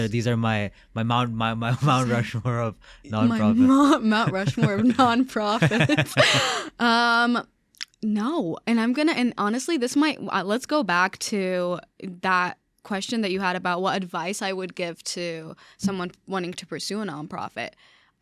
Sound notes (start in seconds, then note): 5.8 laughing